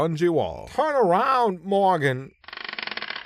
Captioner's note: chair squeaks